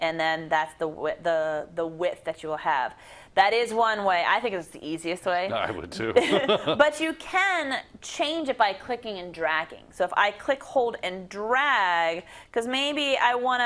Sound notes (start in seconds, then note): 5.5 laugh